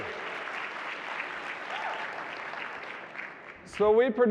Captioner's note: audience applauding